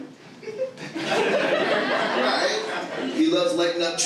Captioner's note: audience laughing